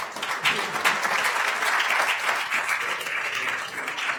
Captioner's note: attendees applauding